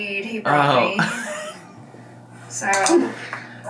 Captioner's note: laughs